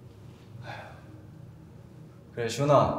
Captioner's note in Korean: 준호 한숨소리